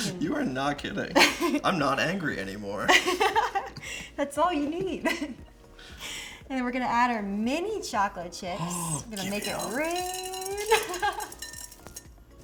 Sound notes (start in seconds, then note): 1.1 laughs; 4.6 laughs; 11.1 laughs